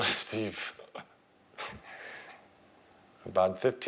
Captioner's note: chuckles